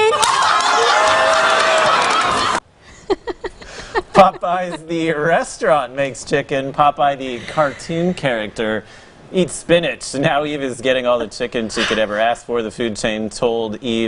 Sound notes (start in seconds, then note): 7.4 laughter